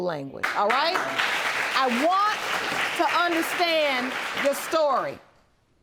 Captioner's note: audience clapping